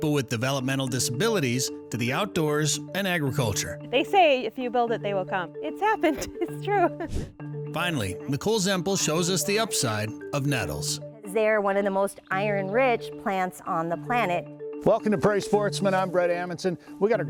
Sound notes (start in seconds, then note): 7.1 air whoosh; 7.4 gentle music